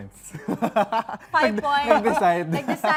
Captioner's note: chuckling